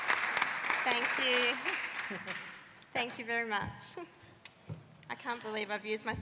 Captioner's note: applause